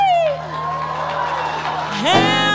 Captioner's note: audience applauds